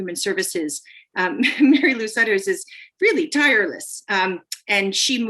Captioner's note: laughter